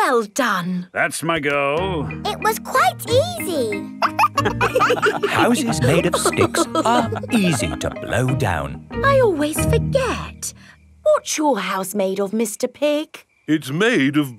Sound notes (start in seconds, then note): 3.9 wolves laughing